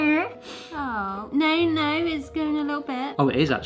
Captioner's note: snorts